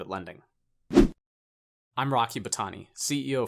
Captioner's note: graphic whooshes